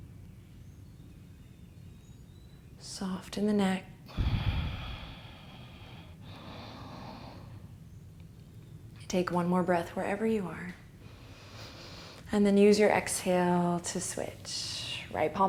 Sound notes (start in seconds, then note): 4.1 deep exhale; 7.1 inhale